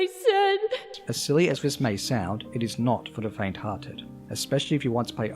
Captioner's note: voiceover